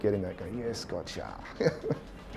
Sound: laughs

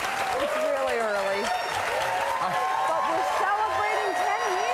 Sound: applause

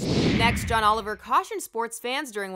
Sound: whoosh

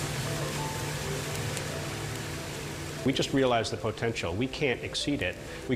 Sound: beans tumble

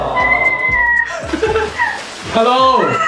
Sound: laughs

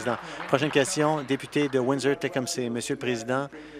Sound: applause

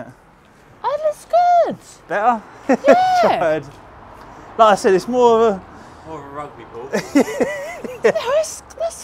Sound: laughter

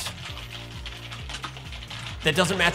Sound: typing Noises

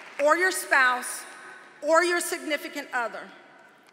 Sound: applause

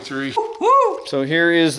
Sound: whoop

